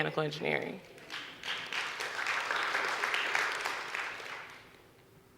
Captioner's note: audience clapping